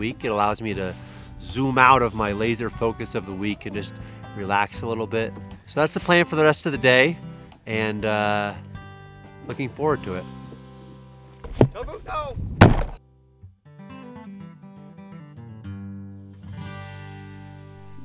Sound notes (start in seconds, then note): 12.5 camera thudding; 12.6 goat horn thudding camera; 13.0 relaxing guitar music